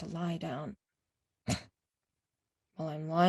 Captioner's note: snorting